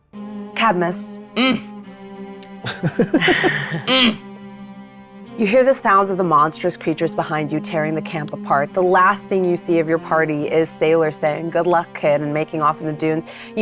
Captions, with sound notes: - Cadmus. (Mayanna grunting) (players giggling) (Mayanna grunting) You hear the sounds of the monstrous creatures behind you tearing the camp apart. The last thing you se of your party is Sailor saying, "Good luck, kid," and making off in the dunes.